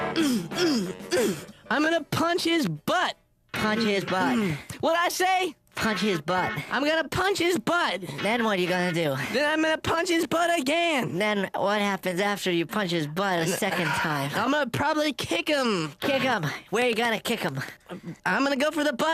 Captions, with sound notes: (grunting) I'M GOING TO PUNCH HIS BUTT! PUNCH HIS BUTT. WHAT'D I SAY? PUNCH HIS BUTT. I'M GOING TO PUNCH HIS BUTT. THEN WHAT ARE YOU GOING TO DO? THEN I'M GOING TO PUNCH HIS BUTT AGAIN. THEN WHAT HAPPENS AFTER YOU PUNCH HIS BUTT A SECOND TIME? I'M GOING TO PROBABLY KICK HIM. KICK HIM! WHERE YOU GOING TO KICK HIM?